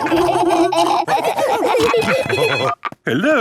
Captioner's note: laughing; phone ringing